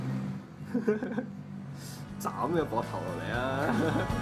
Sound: sound of Giggling

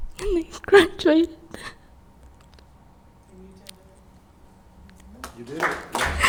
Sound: crying; spectators applauding

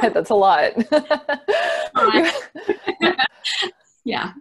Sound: laughs

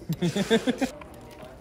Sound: laughter

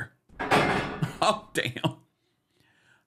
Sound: gavel bangs

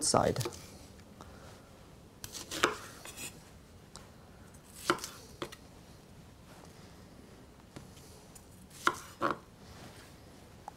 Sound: cutting sounds

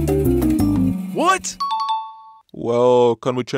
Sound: correct Ding

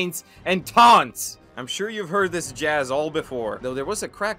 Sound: exasperated

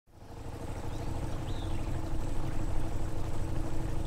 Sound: boat engine idling

